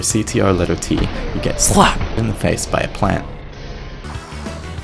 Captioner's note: slapped